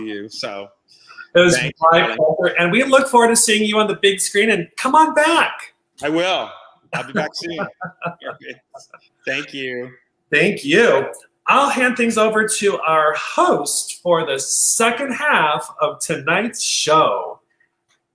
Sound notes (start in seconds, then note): 6.9 laughing